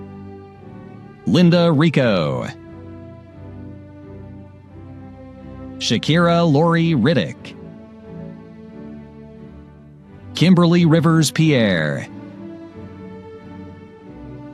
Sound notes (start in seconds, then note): none